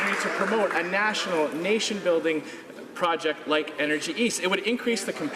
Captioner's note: some Applause